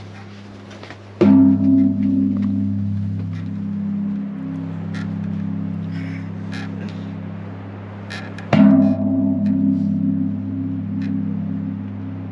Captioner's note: bell clanking